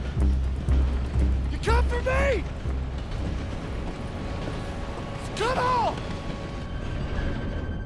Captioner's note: screams